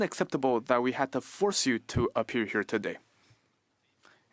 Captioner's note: speaking French